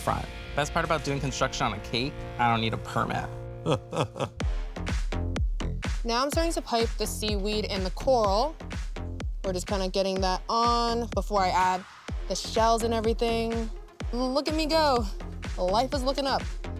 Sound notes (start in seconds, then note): 3.6 Buddy chuckling; 4.5 uptempo music